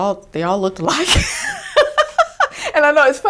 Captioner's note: laughing